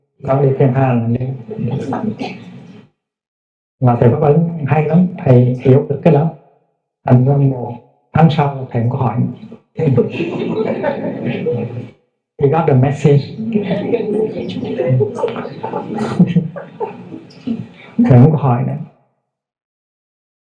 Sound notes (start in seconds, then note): 1.4 audience laughing; 9.8 audience laughing; 13.3 Audience laughing, Thay chuckling